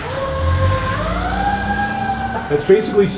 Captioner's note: siren wailing